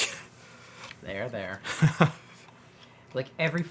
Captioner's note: laughs